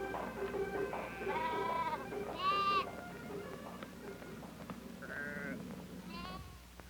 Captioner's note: light music; goats bleeting